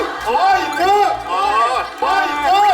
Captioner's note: laughter spills out